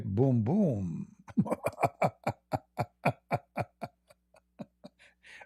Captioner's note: Ketawa